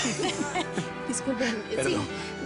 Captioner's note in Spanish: Risas